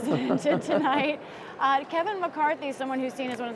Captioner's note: laughter